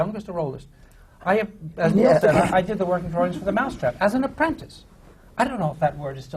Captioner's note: laughter